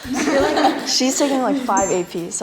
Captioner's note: laughing